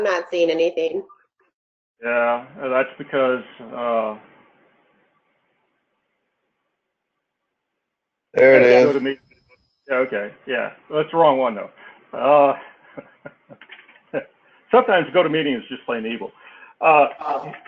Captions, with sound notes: >> No, I'm not seeing anything. >> Yeah, that's because, >> There it is. >> Okay, yeah. That's the wrong one though. [LAUGH] Sometimes GoToMeeting is just plain evil.